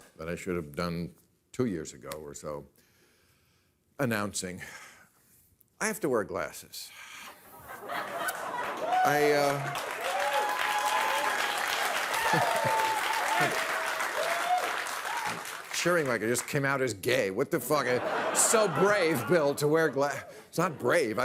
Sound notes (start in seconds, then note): 7.6 audience laughing; 8.0 audience cheering